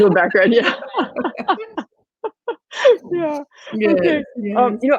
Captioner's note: laughing